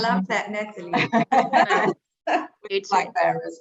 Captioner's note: chuckling; everyone laughing